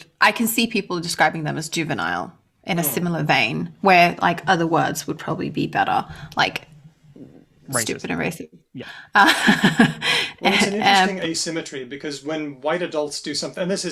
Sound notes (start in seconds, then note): 9.2 laughs